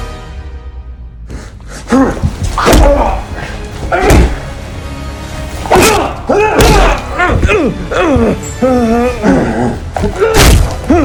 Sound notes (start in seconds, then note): 5.6 grunts in pain; 5.7 screams; 5.7 exclaims; 7.6 struggled breathing; 8.9 aggressive growl